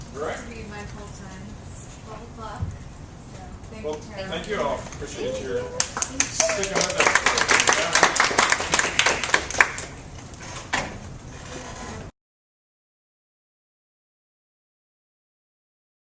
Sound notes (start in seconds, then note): 5.7 applause